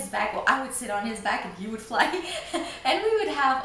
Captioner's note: laughs